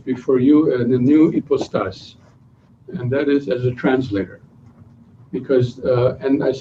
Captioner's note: non-english speech